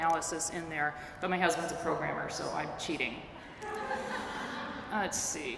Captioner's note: laughter